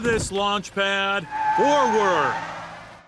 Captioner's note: tires screech